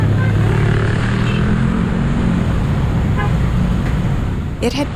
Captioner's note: horns honking